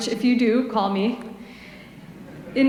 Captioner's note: laughter